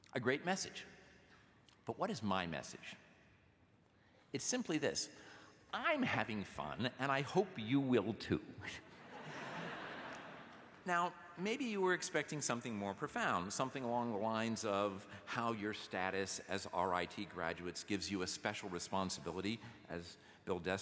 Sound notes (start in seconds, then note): 11.3 laughter